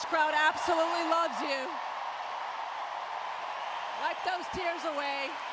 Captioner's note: applause